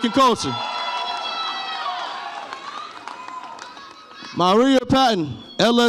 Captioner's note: audience applauds and cheers